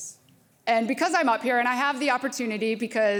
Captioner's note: none